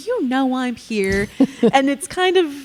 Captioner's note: chuckling